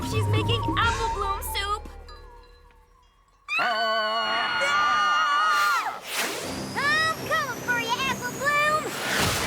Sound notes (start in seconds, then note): 3.5 all scream